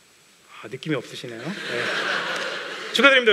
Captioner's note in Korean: 웃음